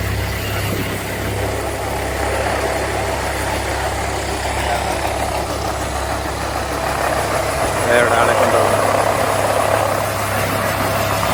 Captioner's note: helicopter whirring